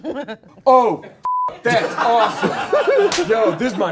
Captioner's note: beep